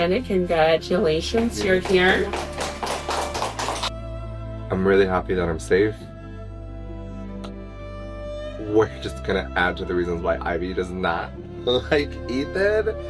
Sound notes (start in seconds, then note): 1.3 clapping